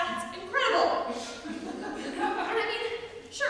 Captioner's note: audience laughter